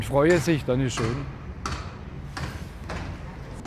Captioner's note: hammering